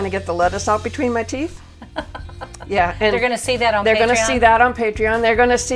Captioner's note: laughter